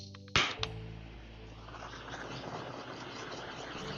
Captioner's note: sound of torching